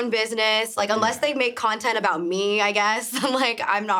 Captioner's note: chuckles